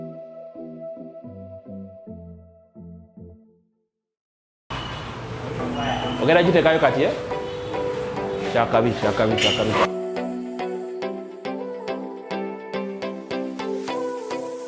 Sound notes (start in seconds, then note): 0.0 upbeat music; 6.9 speaking foreign language; 11.8 upbeat music